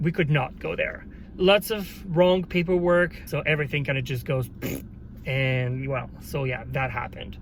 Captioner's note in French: prrrttt